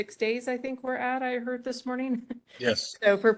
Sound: laugh

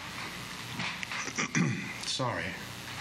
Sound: clears throat

